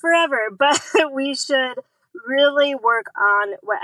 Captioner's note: laughs